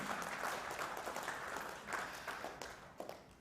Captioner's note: applause